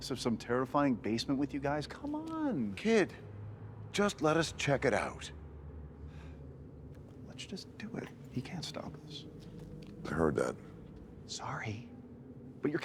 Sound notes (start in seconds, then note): 6.8 sighs